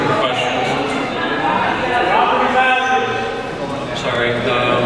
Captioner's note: crowd mutters